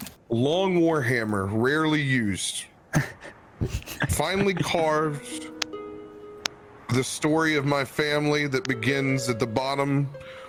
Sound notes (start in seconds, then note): 3.6 chuckles